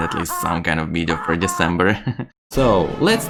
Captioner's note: nervous laugh